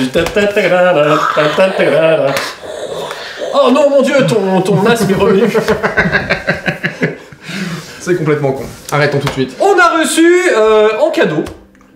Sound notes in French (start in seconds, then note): 2.9 imite Dark Vador